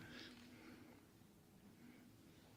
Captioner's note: none